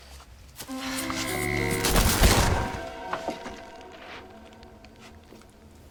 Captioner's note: electricity buzzing